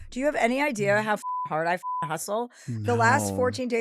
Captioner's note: beep